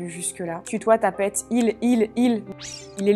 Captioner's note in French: bip